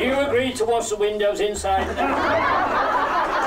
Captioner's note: laughter